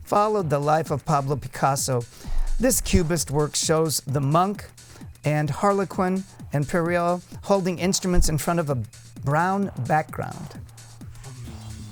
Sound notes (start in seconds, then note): none